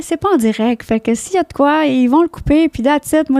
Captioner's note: in french